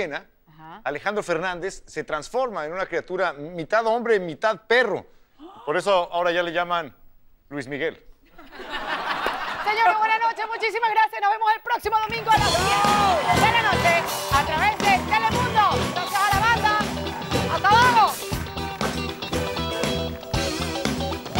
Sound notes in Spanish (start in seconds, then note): 8.3 Risas